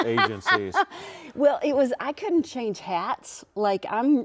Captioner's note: laughs